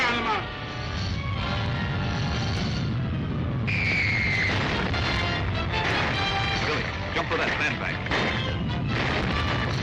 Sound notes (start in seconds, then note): 3.9 Aerial Torpedo screams; 4.3 rocks blasting; 9.5 suspenseful music